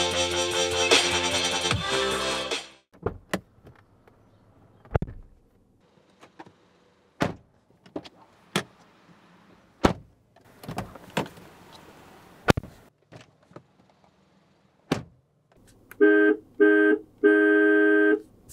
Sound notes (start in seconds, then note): 4.9 door Thud; 7.2 door Thud; 9.8 door Thud; 12.1 door Thud; 14.9 door Thud